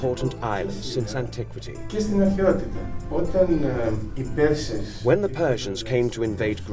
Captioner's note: man speaking Greek